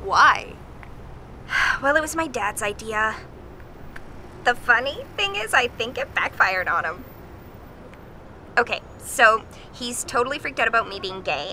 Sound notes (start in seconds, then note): 1.4 sigh